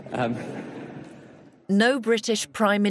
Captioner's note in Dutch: publiek lacht